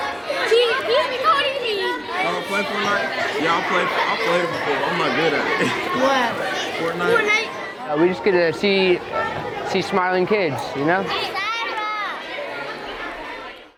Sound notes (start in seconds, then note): 11.9 kids chattering